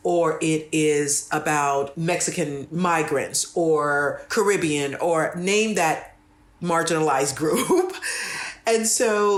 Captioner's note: laugh